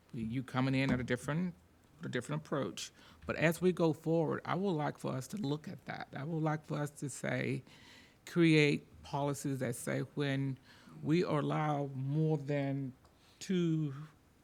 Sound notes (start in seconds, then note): none